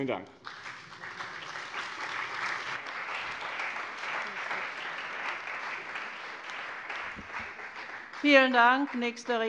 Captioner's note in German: Beifall bei dem BÜNDNIS 90/DIE GRÜNEN und der CDU